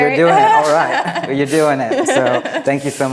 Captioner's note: chuckles